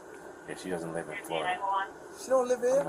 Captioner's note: radio chatter